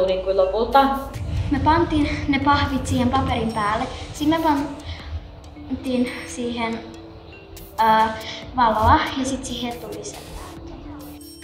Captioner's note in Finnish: lapsen ääni